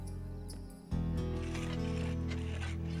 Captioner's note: scraping